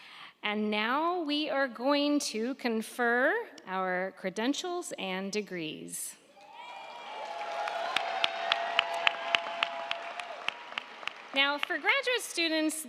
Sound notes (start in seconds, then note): 6.3 crowd cheering; 6.5 crowd clapping